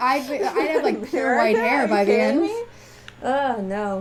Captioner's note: laughing